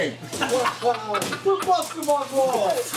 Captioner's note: group laughing